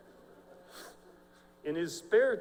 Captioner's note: laughter